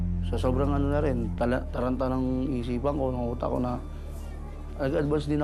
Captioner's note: speaks in foreign language